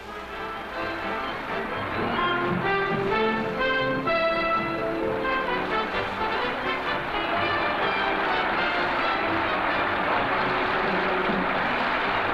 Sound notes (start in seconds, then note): 0.1 fanfare band music; 6.7 audience applauds